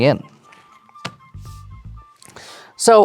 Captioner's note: cards thump on table